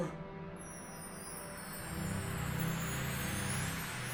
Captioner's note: chimes tinkling